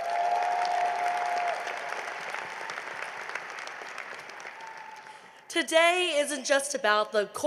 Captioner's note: applause